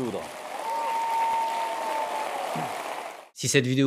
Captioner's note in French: applaudissements